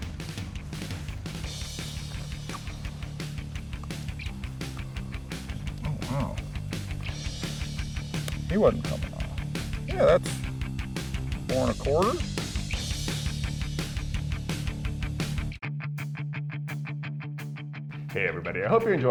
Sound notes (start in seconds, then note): 4.0 fish thrashing